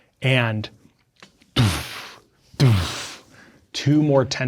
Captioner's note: imitates explosions